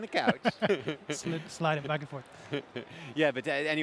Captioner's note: both laugh